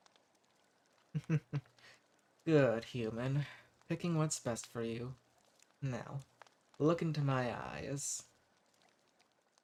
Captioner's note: chuckles